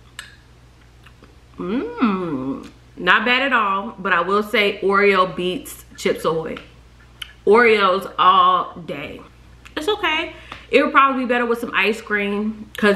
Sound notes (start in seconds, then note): none